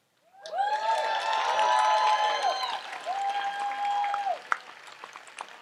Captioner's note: audience applauds and cheers